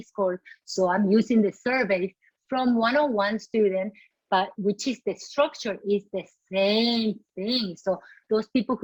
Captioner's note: Spanish